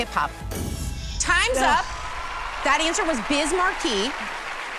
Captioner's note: whoosh